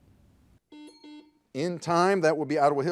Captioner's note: buzzer